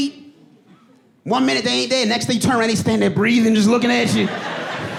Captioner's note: breathing heavily